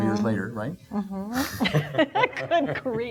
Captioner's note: laughing